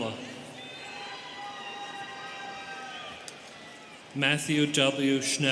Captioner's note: students cheering